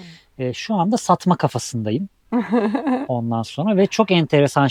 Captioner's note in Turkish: kahkaha